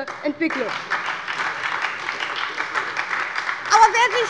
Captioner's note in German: Beifall bei der SPD und bei Abgeordneten der CDU